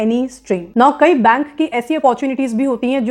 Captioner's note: speaking hindi